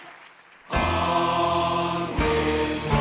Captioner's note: applause